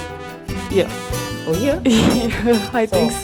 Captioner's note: laugh